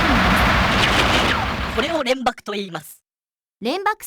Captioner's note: pow